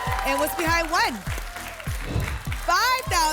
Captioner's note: whoosh